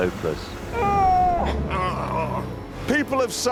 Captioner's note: straining